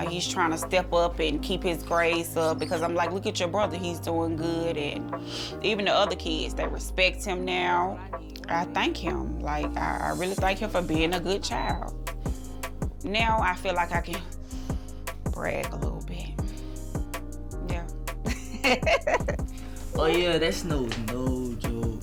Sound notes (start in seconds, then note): 16.4 inhales; 18.3 laughs